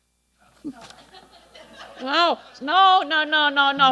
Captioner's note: audience laughing